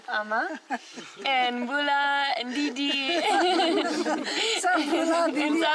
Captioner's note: laughs